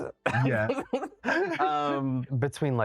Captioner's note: chuckles